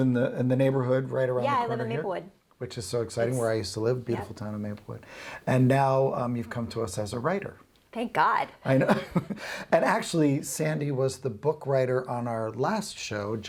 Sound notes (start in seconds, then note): 8.7 laughs